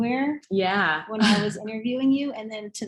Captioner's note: laughs